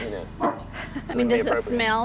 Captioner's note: laughter